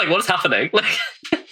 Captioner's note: laughs